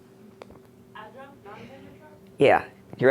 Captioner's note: voiceover